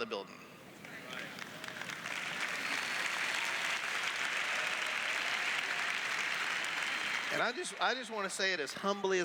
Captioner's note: applause